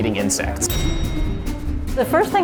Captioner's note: bell dings